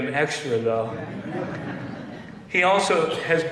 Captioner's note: laughter